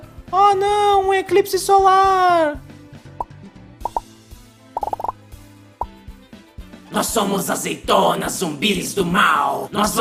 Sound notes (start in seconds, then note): 3.8 pop; 4.7 a lot of pops; 4.8 pop pop